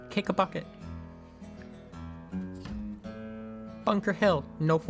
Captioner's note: sound of bucket being kicked across my bedroom